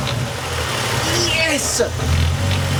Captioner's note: sound of a Happy Man